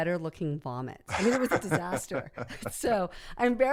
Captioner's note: laughs